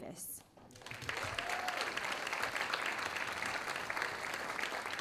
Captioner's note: audience applauding